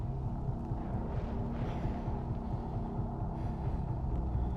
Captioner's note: thunder cracking